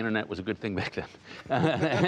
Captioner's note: laughter